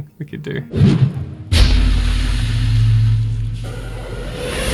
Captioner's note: fire exploding